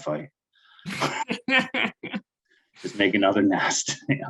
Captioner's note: laughing